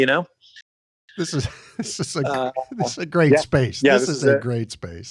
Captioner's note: laughs